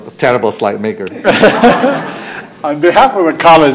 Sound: laughter

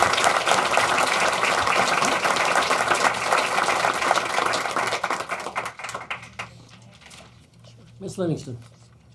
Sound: applause

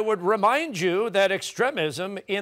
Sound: none

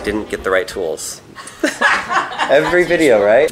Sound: laughter

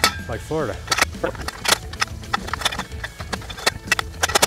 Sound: clicking noise

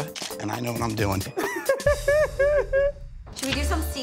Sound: laughter

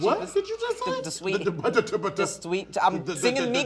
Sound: man speaking gibberish

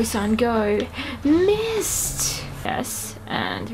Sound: gasps

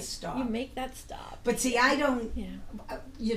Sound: voiceover

